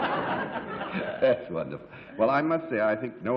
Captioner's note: laughs